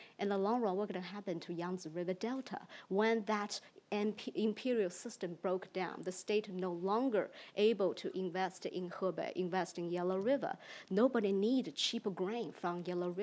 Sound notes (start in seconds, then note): 1.6 speaks in foreign language; 9.0 speaks in foreign language; 13.0 speaks in foreign language